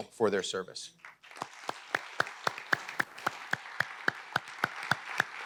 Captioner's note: audience applauding